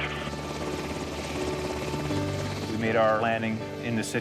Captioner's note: helicopter rotors thump